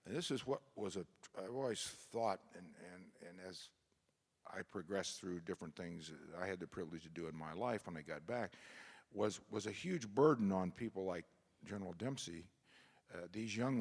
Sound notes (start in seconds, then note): none